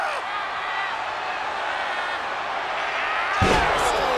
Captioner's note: crowd yelling